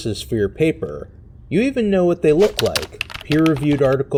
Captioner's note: keyboard sounds